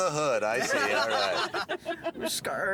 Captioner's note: laughing